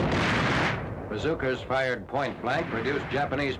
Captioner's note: bazooka fires